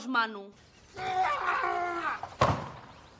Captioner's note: yelling